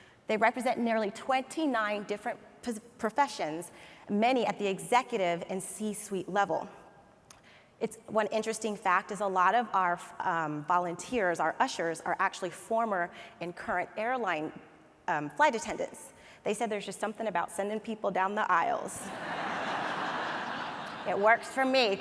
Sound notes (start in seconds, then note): 19.0 audience laughs